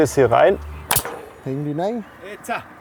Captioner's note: stapling